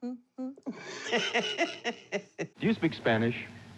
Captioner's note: laughing